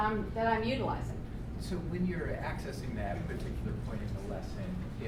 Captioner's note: voiceover